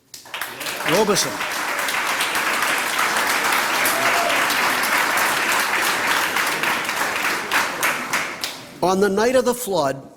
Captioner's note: applause